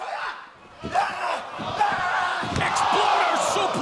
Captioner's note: shouting